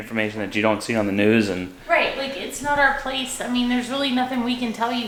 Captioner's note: none